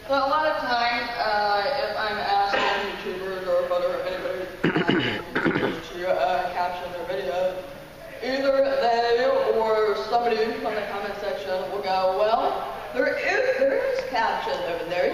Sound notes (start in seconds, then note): 4.6 man clearing throat